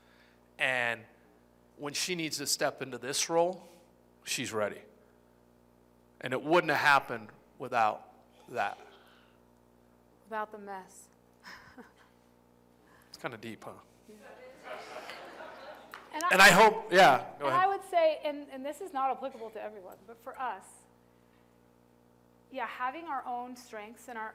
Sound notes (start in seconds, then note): 11.4 laughter; 14.3 laughter